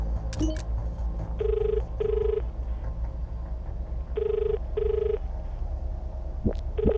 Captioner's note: dial tone; digital warble